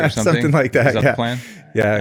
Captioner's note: laughs